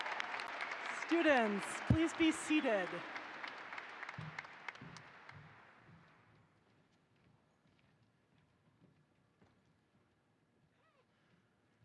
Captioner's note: applause